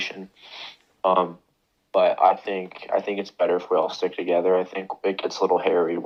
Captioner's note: sniffs